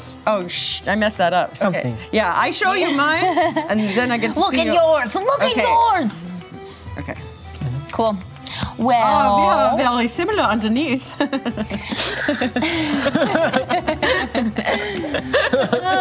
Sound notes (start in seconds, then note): 11.1 laughter; 11.2 laughs